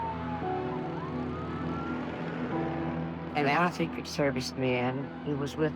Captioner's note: sirens blaring